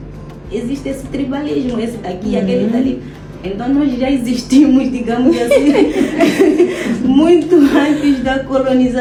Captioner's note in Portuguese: risadas